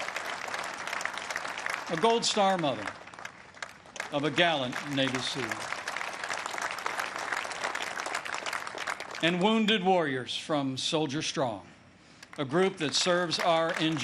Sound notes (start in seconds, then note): 0.0 applause; 5.7 applause; 13.7 applause